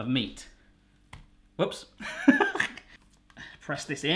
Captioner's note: laughs